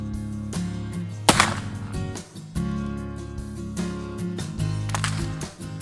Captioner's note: gun shots